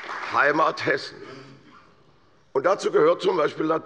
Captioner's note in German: Beifall bei der CDU und dem BÜNDNIS 90/DIE GRÜNEN